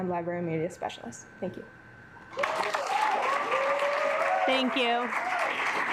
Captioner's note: assembly clapping